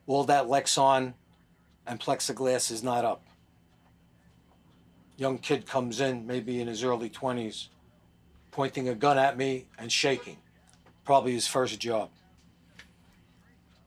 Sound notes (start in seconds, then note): none